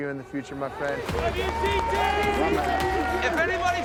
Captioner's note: all cheering